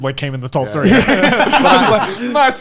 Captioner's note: laughing